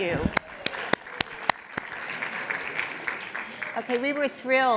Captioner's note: audience applauds